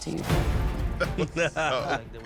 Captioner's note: laughter